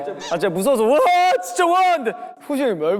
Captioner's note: screamed out of fear